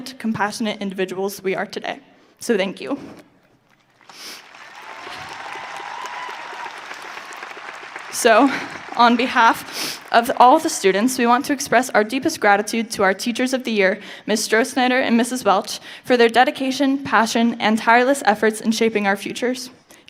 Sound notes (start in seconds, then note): 4.4 audience cheering